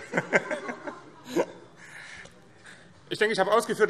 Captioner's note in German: BÜNDNIS 90/DIE GRÜNEN - Heiterkeit